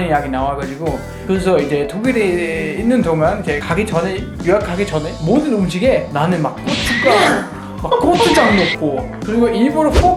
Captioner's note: haha